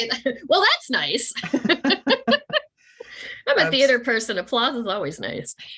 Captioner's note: laughing